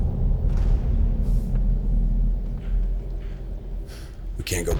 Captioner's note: bombs rumbling